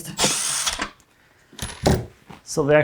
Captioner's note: tool whirring